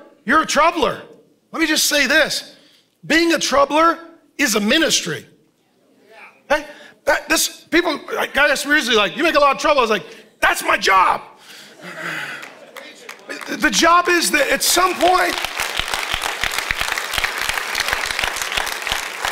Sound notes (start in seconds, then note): 11.9 congregation laughing; 15.5 congregation applauding